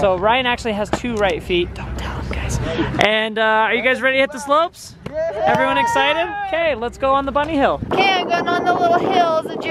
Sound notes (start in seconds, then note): 5.2 cheering